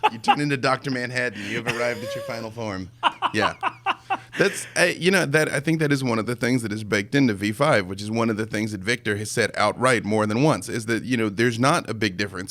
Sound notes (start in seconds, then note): 3.0 laughing